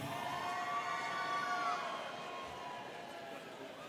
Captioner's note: students cheering